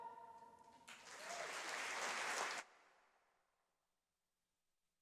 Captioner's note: audience applauding